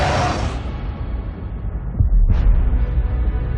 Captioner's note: loud roaring